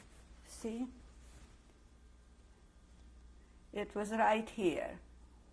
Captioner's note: pauses for 3 seconds